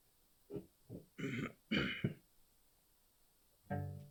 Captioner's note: clears throat